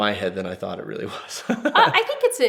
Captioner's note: laughs